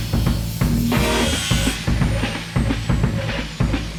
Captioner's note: grinder whirs